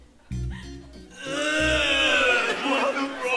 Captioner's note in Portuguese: imita vômito